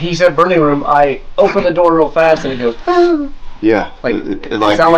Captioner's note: moans